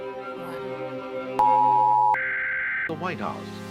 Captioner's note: emergency Broadcast Alarm rings